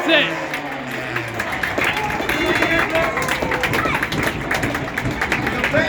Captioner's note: applause